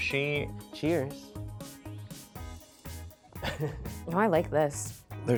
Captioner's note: upbeat contemporary music; laughs